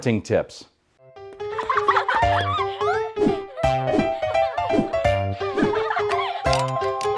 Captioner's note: joyful piano music; children laughing